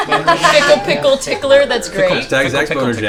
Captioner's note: laughter